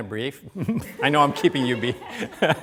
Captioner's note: laughter